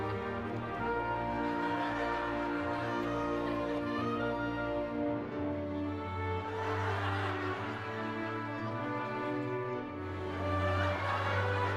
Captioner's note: laughing continues